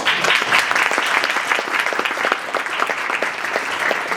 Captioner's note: audience applauding